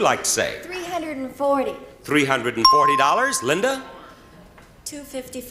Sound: bell rings

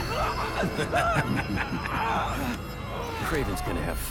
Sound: laughs

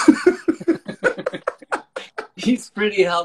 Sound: laughing

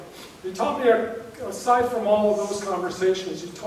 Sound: none

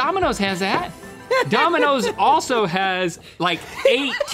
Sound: laughing

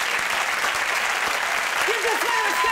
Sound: audience clapping

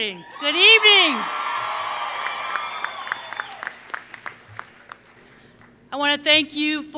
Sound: applause

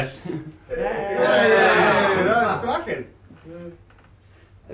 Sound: cheering

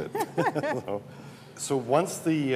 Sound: laughter

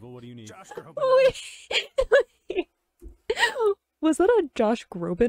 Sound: laughs

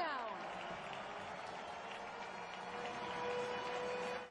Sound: siren; crowd noise

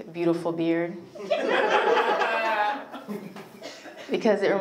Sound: audience laughs

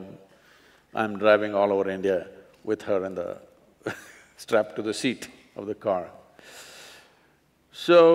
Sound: laughs

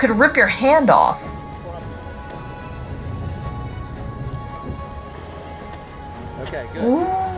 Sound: background music; background noise/chatter in clip

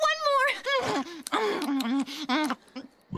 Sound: Courtney Munching; belching

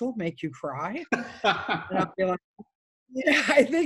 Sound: laughs

